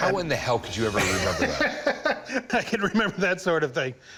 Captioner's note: laughs